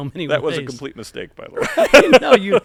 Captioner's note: laughter